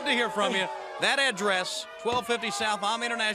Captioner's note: crowd chatter